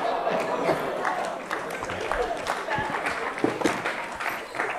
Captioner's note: applause